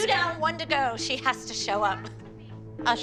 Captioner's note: laughs